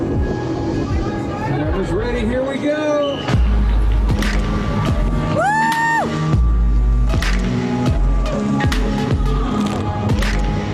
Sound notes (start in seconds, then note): 5.2 cheering loudly; 7.2 upbeat music